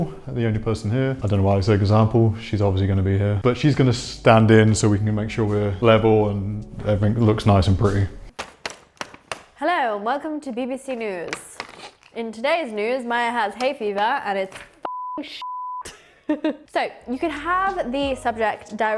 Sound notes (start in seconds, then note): 14.8 beep beep; 15.1 laughs